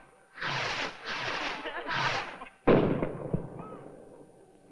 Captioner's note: scattered laughter